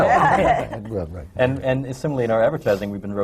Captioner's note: laughter